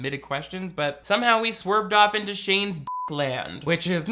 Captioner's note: beep